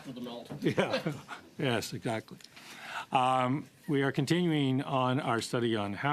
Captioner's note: laughter